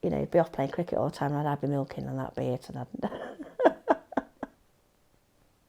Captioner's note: laughs